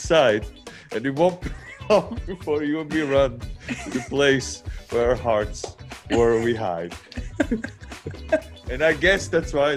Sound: laugh

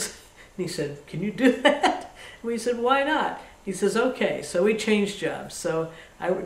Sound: laughs

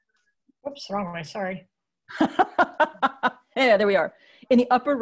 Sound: laughs

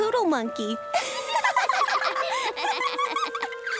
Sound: laughing

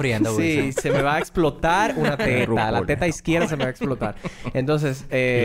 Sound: laughs

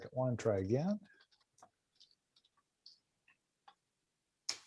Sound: keyboard clatters

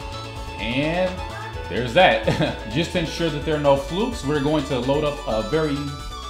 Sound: heh

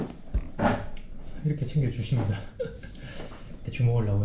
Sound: laughing

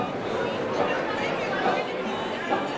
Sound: indistinct chatter; light banjo plucking

